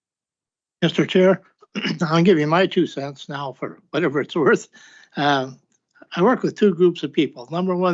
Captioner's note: clears throat